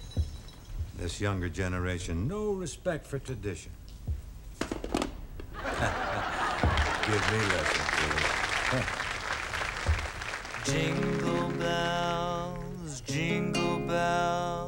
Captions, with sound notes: This younger generation, no respect for tradition. -(audience applauding) -Give me lessons, will you.